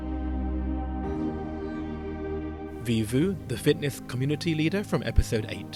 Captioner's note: voiceover